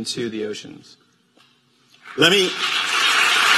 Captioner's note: applause